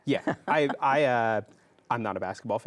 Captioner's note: chuckles